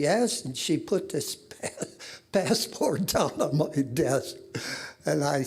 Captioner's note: laughing